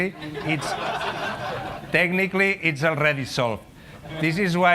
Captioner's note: laughter